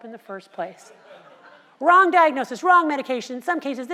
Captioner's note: laugh